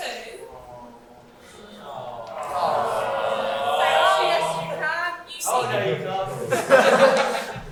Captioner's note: audience awws